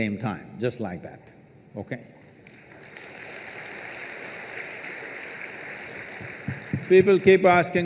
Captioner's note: applause